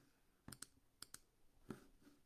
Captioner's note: mouse clicking